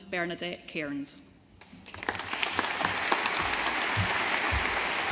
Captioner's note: audience applauding